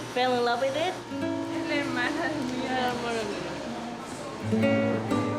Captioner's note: soft music; speaks in foreign language